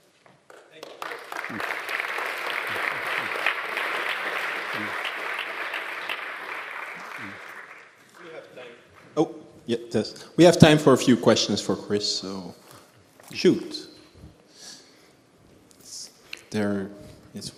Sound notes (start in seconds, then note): 0.4 applause